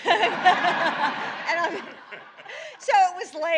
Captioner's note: laughter